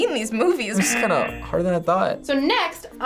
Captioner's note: buzzer rings